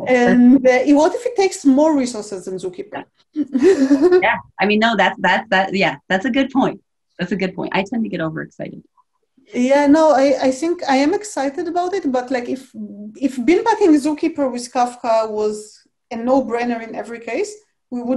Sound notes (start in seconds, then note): 3.4 laughs